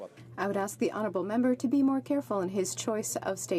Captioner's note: speaking French